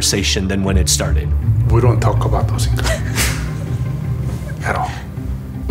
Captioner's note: laughter